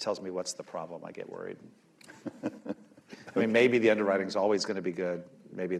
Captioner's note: laughter